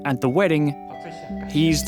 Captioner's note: in mandarin